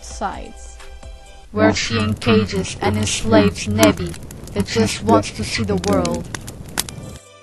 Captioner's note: sinister voice